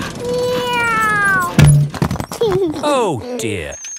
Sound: george imitates airplane; george giggles

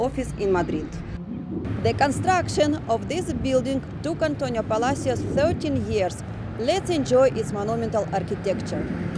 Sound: street Noise

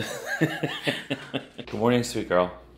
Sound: both laugh

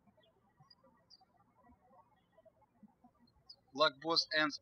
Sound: birds chirping

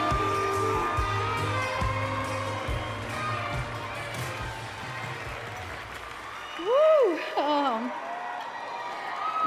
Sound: cheers and applause

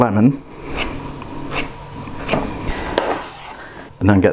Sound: zesting sound

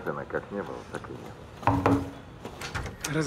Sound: knocks on door

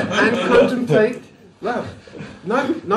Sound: laughter

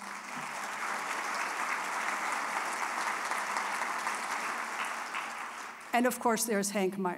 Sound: applause

